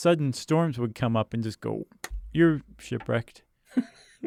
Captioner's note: hands smack; laughs